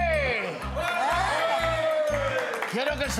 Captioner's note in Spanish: Gritos